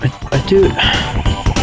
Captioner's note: exhales Oxygen